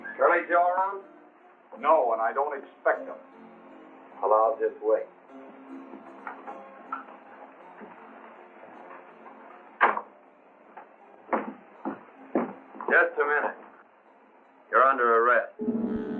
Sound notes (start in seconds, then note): none